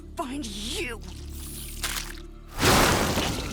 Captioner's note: worms squelching; magic whooshing